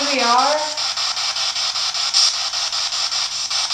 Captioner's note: static